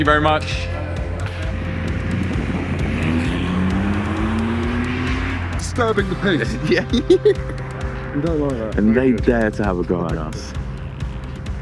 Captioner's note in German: Auto beschleunigt